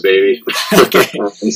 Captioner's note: laughter